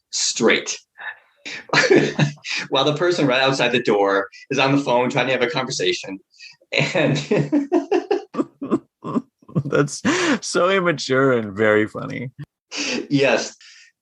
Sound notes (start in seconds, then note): 6.8 laughter